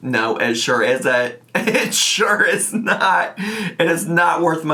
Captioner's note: laughing